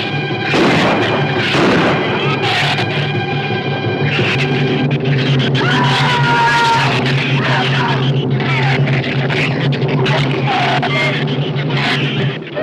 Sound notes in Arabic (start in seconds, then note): 0.5 إطلاق نار; 2.3 زئير الزبابة; 5.5 جيري يصرخ; 9.2 زئير الزبابة